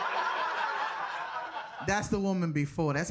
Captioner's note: audience laughing